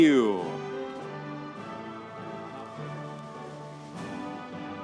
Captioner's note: audience cheering